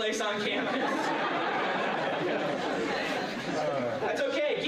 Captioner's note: laughter